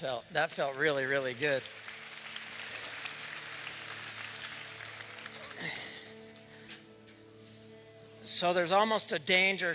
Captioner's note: applause